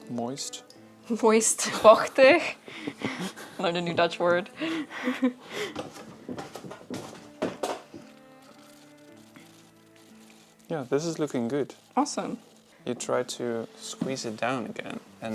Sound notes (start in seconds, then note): 5.8 clanking